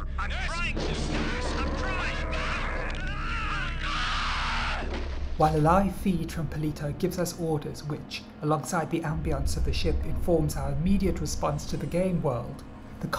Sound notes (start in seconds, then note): 3.1 screaming